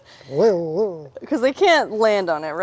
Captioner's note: laughing